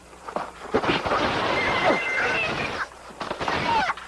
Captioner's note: pigs squealing